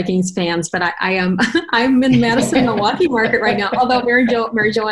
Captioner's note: laughs